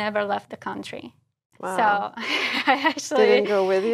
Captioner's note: laugh